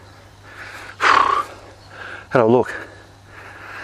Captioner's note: breathes out heavily